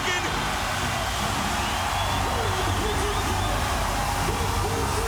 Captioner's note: crowd cheering